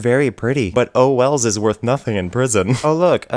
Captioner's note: laughs